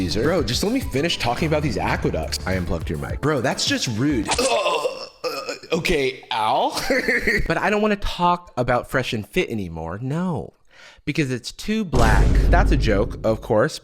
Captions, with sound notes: - Bro, just let me finish talking about these aqueducts. - I unplugged your mic. - Bro that's just rude. (groans) Okay, ow? (laughs) - But I don't wanna talk about FreshandFit anymore. No. Because it's too black. [explosion sound effect] That's a joke, of course.